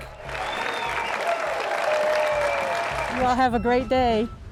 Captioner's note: crowd cheering and applauding